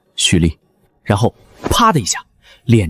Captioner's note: slap